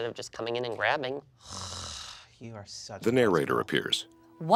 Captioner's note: nasally groan